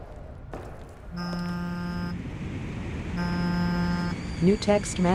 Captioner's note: phone vibration